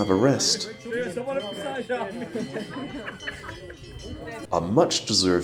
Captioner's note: chatter